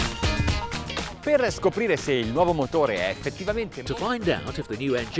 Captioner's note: speaks in foreign language